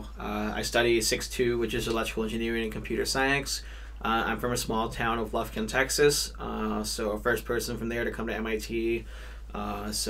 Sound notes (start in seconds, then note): none